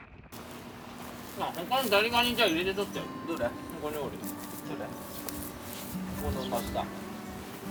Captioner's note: laughs